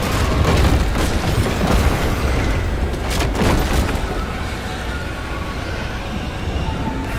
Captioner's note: gunshots